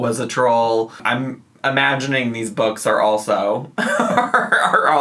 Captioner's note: laughs